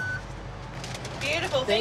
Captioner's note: device beeps